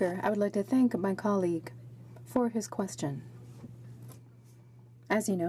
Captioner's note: speaking french